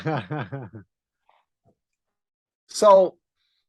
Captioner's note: laugh